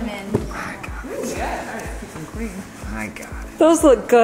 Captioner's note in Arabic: يتمتم بسخط